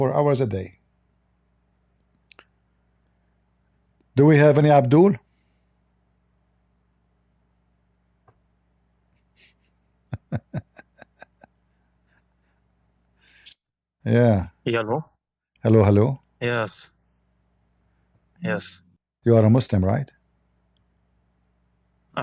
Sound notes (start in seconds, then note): 10.1 Ketawa